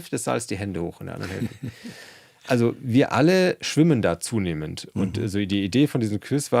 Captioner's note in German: gelächter